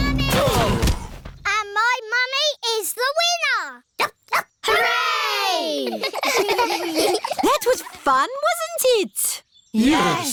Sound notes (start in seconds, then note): 0.9 groaning; 4.6 barks; 5.8 giggling